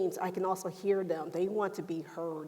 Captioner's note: none